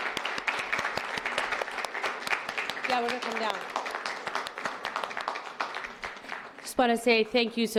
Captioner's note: applause